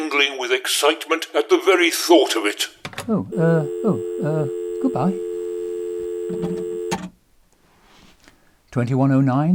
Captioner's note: click